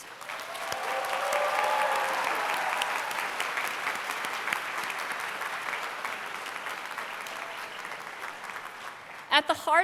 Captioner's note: applause